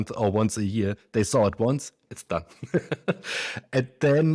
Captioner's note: laughs